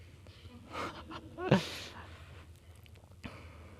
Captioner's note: laughing